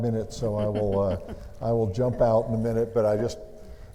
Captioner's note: laughs